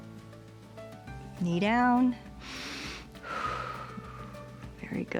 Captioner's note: inhales and exhales